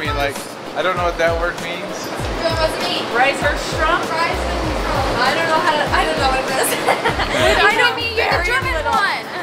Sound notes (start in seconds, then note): 2.7 family speaking in foreign language